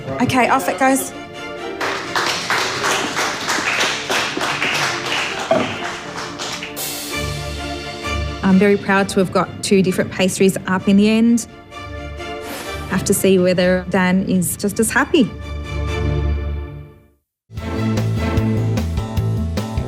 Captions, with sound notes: Okay, off it goes. (all applauding) (soft beat music) I'm very proud to have got two different pastries up in the end. Have to see whether Dan is just as happy.